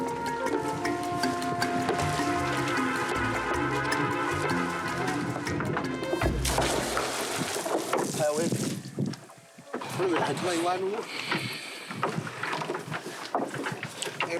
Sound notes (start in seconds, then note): 7.9 Portuguese spoken audio